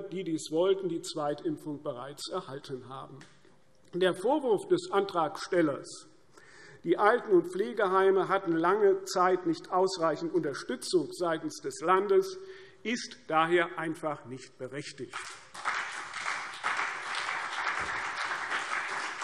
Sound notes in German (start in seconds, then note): 15.2 Beifall CDU und BÜNDNIS 90/DIE GRÜNEN